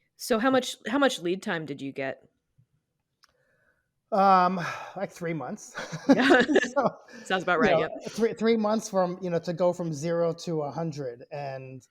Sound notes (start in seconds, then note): 5.7 both laugh